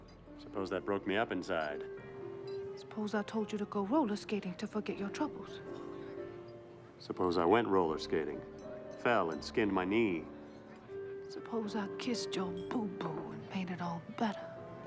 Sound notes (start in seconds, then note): none